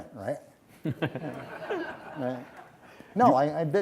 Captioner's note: audience laughs